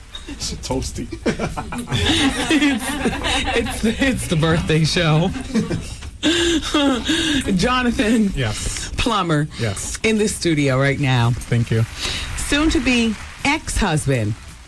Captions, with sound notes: It's a toasty. (laughing) It's the birthday show. Jonathan. Yes. Plummer. Yes. In the studio right now. Thank you. Soon to be ex-husband,